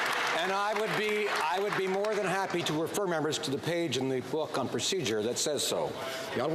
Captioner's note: some Applause